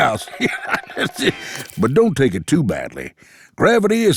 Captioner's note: laughs